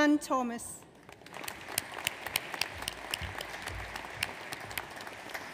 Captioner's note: audience applauds